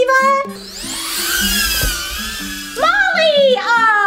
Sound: buzzing

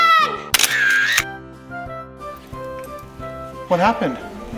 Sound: camera shutter clicks

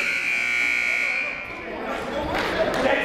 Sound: buzzer ringing; shouting

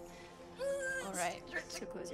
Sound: nervously whines

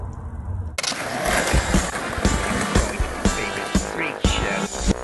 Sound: skateboard rattles; electric music

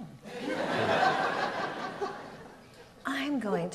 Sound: audience laughs

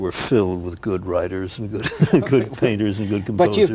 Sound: chuckles

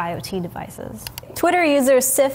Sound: mouse clicking

